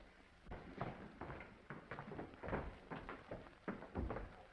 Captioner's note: footsteps approaching